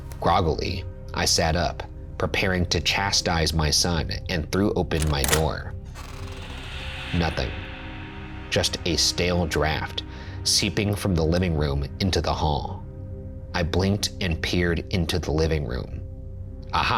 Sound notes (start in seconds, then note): none